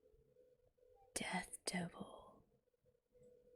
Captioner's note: whispers